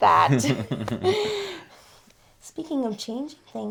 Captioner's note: both chuckle